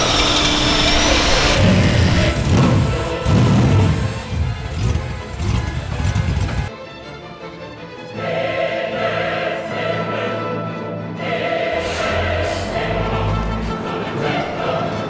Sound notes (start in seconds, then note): 2.6 engine revs